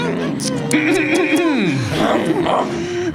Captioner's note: more makeout sounds; clears throat; makeout sounds intensify